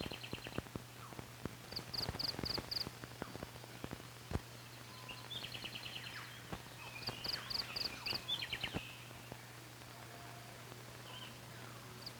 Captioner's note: birds chirping